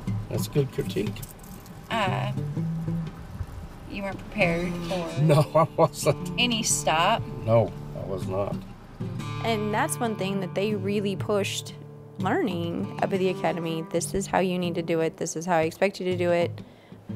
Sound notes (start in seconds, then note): 4.8 laughs